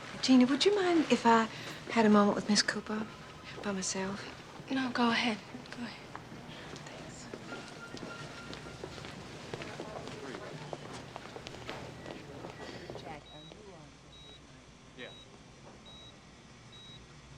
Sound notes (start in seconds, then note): 0.0 telephone rings in distance; 9.4 machine beeping